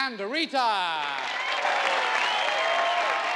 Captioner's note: crowd cheering